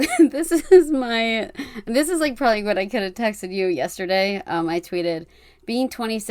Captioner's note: laughing